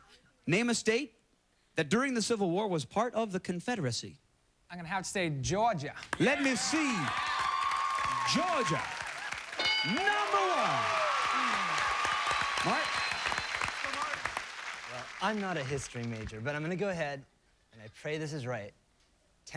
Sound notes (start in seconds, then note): 11.2 cheers and applause